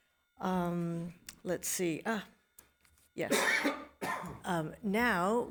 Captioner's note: coughs